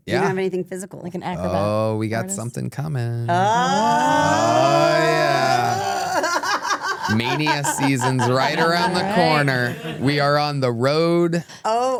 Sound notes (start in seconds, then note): 3.3 laughs